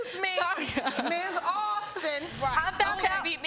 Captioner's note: laughing